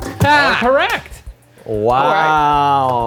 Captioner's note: dinging